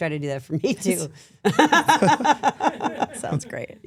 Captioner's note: laughs